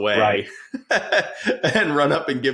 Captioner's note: laughing